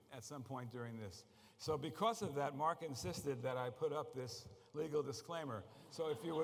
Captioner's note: laughter